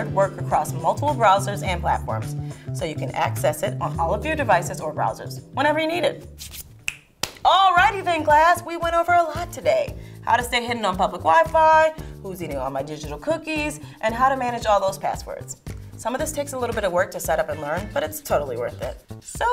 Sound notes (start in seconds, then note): 6.3 rubbing hands